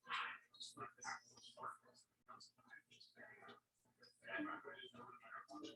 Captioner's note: people chattering indistinctly